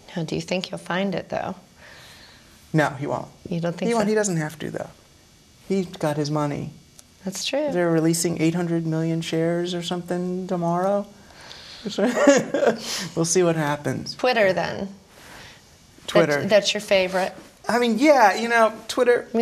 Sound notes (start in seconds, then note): 11.9 laughing